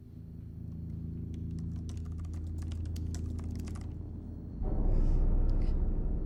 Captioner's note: keyboard typing; eerie music